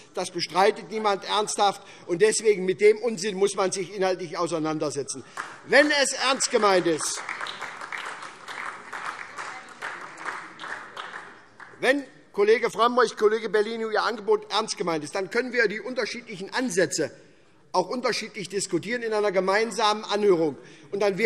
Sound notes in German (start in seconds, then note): 7.5 Beifall SPD und DIE LINKE